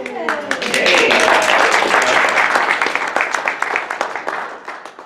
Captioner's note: audience cheers and applauds